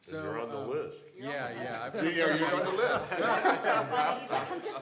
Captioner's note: laughter